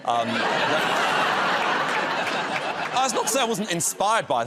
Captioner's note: laughter